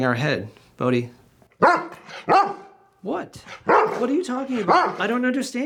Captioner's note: dog barks